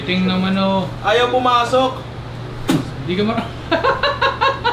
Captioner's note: spits; laughs